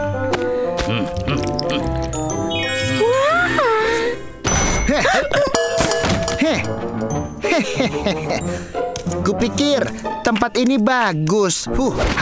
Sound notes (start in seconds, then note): 0.7 chuckles; 0.7 gasps; 7.4 chuckles